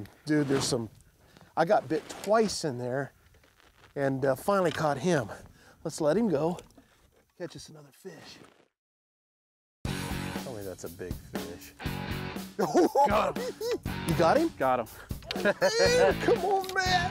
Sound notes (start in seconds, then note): 12.5 giggling